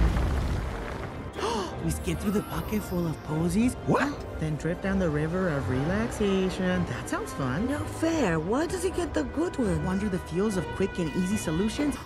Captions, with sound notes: *Gasp* We skip through the pocket full of posies/ What? Then drift down the river of relaxation. That sound fun. No fair, why does he get the good one. Wonder the fields of quick and easy solutions.